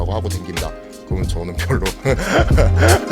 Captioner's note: laughing